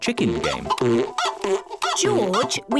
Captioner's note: chicken clucking